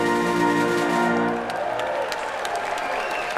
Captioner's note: applause